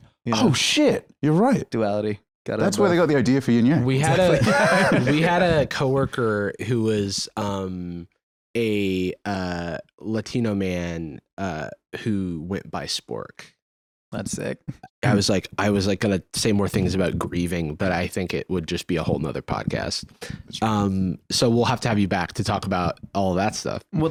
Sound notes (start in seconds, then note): 4.1 laughs